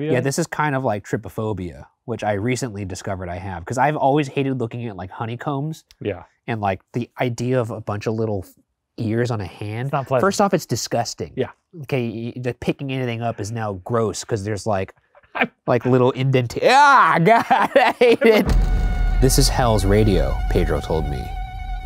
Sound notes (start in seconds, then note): 16.6 laughing; 16.6 grunting